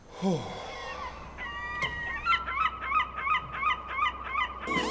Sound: birds cawing

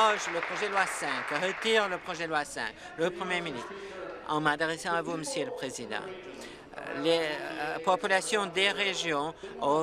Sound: some Applause

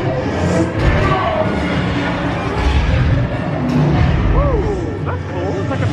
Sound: dramatic music; explosions

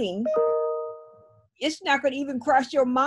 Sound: laptop chiming

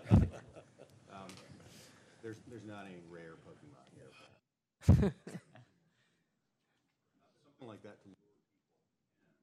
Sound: laughter

